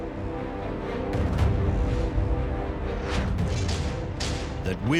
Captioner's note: uplifting music; metal clashing